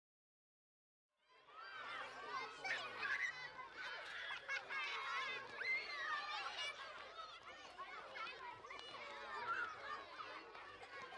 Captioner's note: sounds of children playing on the playground